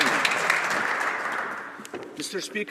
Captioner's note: some Applause